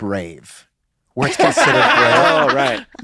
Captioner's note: laughter